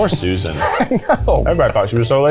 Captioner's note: laughing